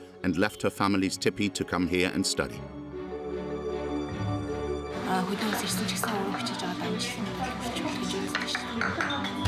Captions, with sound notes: and left her family's tipi to come here and study. [Foreign spoken audio]